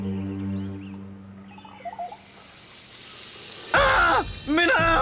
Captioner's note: sizzling